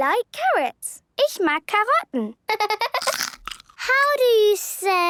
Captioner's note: laughter